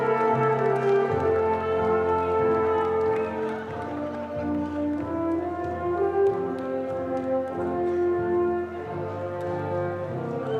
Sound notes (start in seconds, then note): 4.3 dramatic music continues; 4.3 audience cheering and clapping; 4.3 dramatic music; 4.3 people chattering